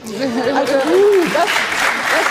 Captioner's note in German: Lachen, Applaus